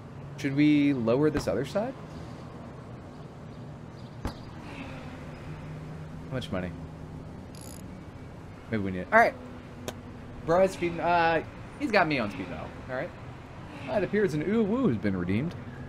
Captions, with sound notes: Should we lower this other side? [sighs] Much money. Maybe we need-- Alright. Bro has-- uh, he's got me on T though, alright? That appears an ooh-woo has been redeemed.